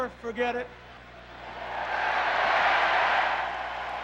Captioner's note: cheers